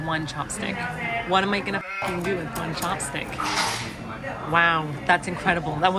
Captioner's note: sheep bleating